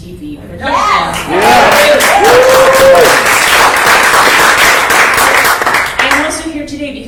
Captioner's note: cheers and applause